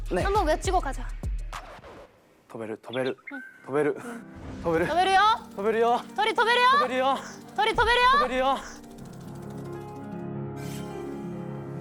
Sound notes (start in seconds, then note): 1.3 saying the magic spell determinedly; 4.8 flapping